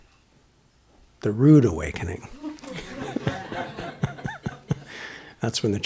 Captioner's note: laughter